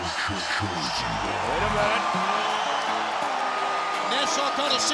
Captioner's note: audience cheering